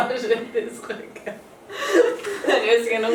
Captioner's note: laughs